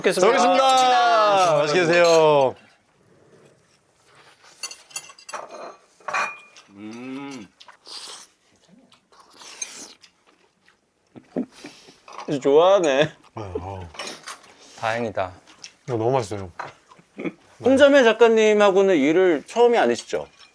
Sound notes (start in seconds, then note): 6.6 slurp